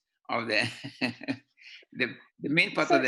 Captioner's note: laughter